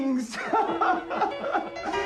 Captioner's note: Keduanya tertawa